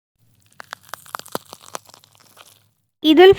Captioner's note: the sound of wood burning in the kitchen